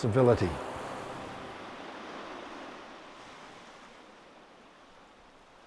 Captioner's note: sound of waves lapping on beach